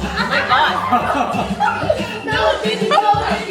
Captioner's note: laugh